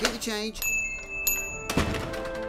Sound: bell rings and door slams

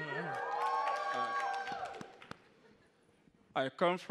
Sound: attendees cheering

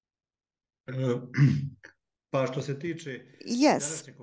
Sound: non-english speech

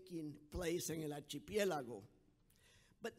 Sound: speaking in foreign language

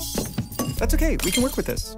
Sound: shatters

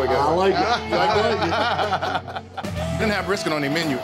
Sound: all men laughing

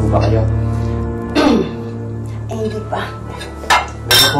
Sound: clears throat

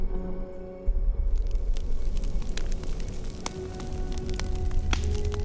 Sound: fire crackling

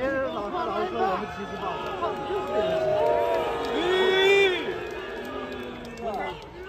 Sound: crowd boos at Kwon

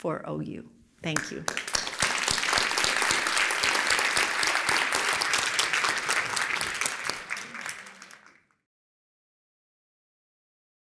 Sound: applause

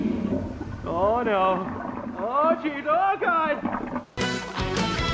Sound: sounds of the toilet clogging and overflowing

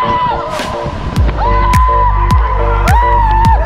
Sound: yelling

